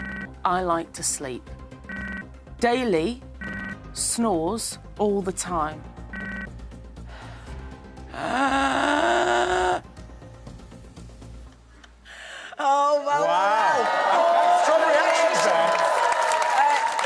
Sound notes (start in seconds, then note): 6.3 imitates daley snoring